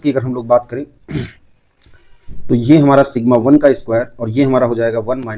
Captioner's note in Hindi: गला साफ़ करने की आवाज़